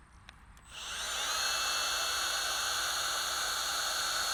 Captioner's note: speaker drilling sound